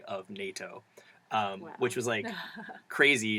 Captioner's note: laugh